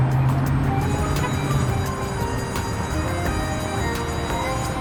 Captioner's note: school bell chimes